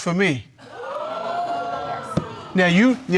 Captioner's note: audience exclaims